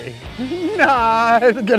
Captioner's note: laughing